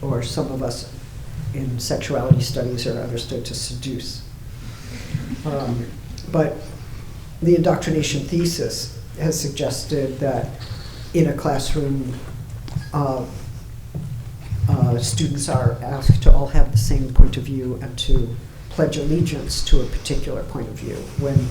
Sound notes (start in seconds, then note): 5.3 audience laughing